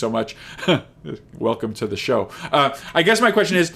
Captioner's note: chuckles